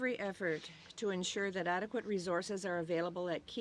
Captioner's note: speaking French